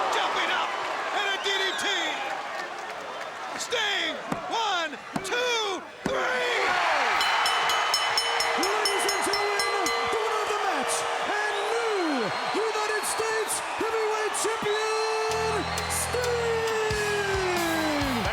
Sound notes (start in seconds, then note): 7.0 bell ringing; 7.9 audience cheering; 15.2 upbeat music